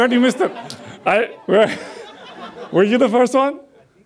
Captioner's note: audience laughs